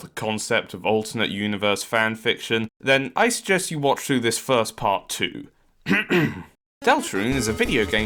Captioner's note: ahem!